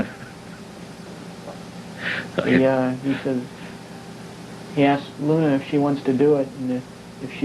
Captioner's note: laughs